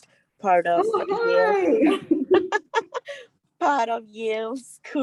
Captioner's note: laughs